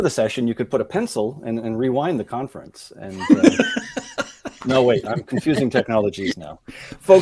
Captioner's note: laughing